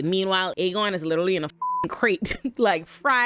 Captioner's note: beep